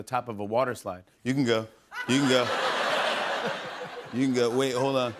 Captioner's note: laughter